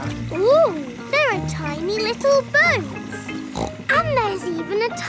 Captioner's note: snorts